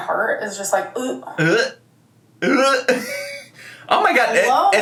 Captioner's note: laughs